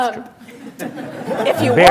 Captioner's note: laughter